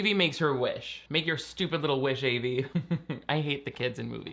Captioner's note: chuckling